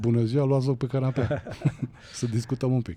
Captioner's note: laughter